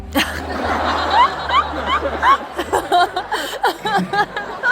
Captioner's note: laughter